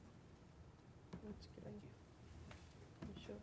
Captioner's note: woman speaking faintly